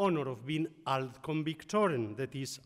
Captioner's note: speaks in foreign language